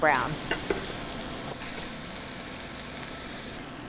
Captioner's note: sizzling